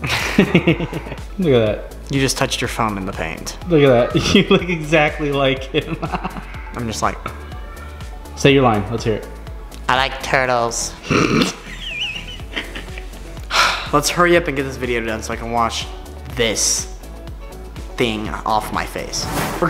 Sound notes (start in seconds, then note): 0.0 laughing; 5.7 laughing; 11.0 laughing